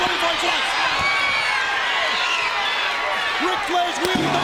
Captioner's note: crowd cheering